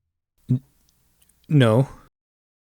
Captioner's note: hesitant